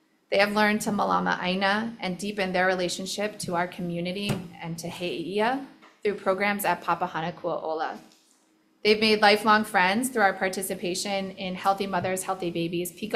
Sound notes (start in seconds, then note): 4.8 speaking in foreign language